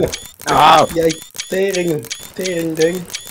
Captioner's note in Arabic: نقر الكاميرا